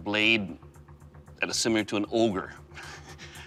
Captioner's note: chuckles